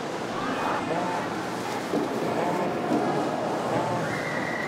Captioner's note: phone vibrates